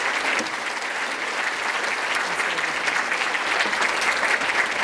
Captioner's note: applause